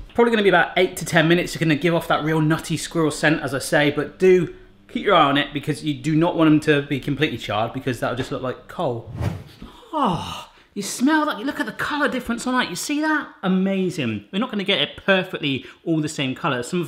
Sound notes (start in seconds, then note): none